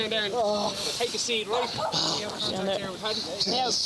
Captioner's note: people chatting